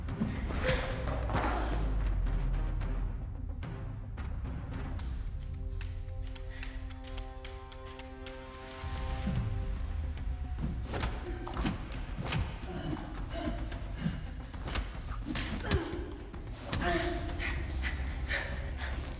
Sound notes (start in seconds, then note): 6.6 tense music continues; 11.0 blows thudding; 11.0 tense music continues